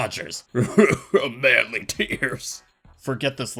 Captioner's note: tough guy voice; tough guy sobbing sounds; tough guy voice